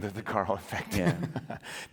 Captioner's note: laughter